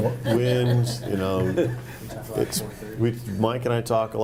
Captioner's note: group laughing